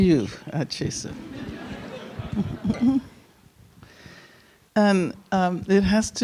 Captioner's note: audience chuckling